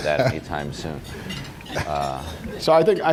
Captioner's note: laughter